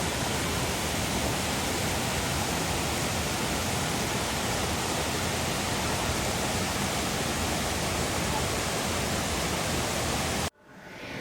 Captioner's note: sound of water